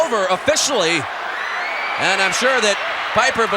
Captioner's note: audience cheering